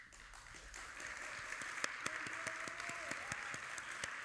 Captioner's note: audience applauding